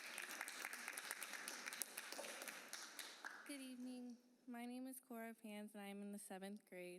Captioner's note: applause